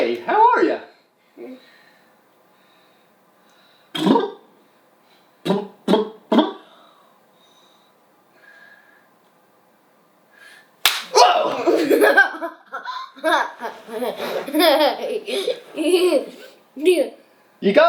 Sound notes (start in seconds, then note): 4.3 blows raspberry; 10.8 hand slaps; 11.1 screams; 11.1 laughing